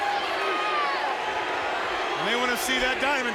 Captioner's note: audience chanting